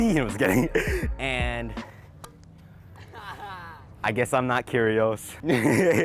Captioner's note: laughing